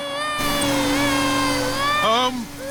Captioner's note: crying